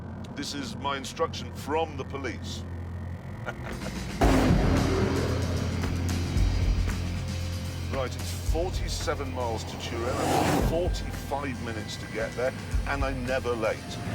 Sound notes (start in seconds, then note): 3.2 chuckles; 4.1 engine roaring